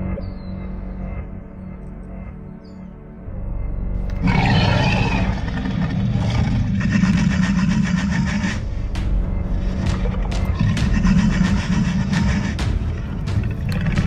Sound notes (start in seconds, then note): 4.1 Indominus growling; 13.2 suspenseful music